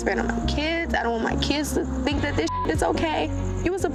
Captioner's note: beep